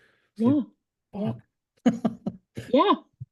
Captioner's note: laughs